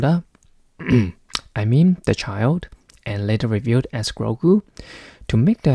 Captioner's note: ahem